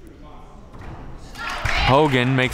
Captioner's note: crowd clapping